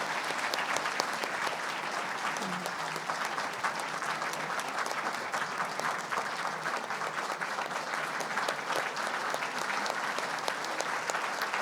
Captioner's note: applause